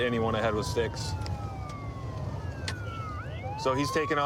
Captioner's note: sirens wailing